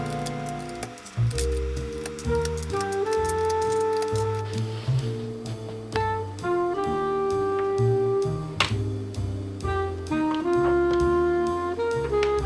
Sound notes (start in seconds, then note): 3.8 ASMR of separating the key caps